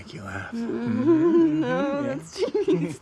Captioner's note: giggles